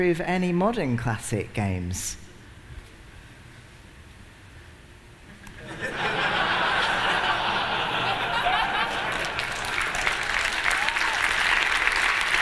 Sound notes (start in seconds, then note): 5.5 laughter; 11.6 applause